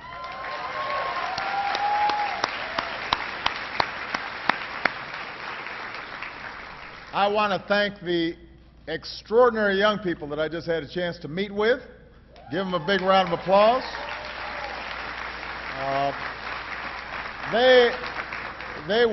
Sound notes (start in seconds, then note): 5.4 applause